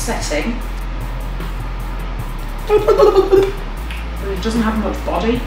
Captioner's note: rubbery bloop